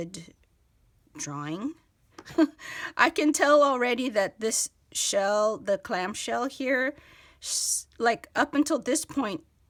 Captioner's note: chuckle